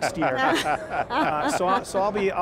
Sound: panelists laughing

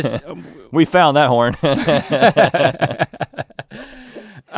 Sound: laughs

